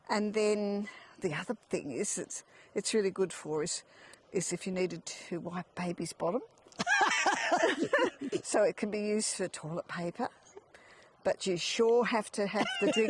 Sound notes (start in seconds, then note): 6.8 laughing; 12.5 laughing